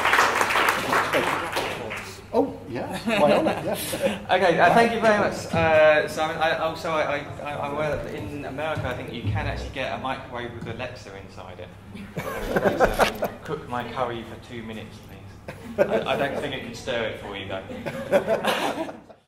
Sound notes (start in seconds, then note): 0.0 applause; 11.9 laughter; 17.6 laughter